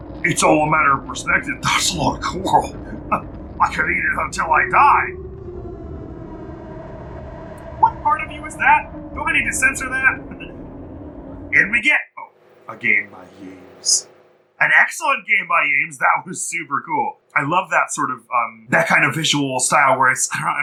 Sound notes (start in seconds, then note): 3.1 laughs; 6.0 howling gets louder